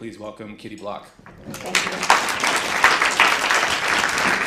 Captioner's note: applause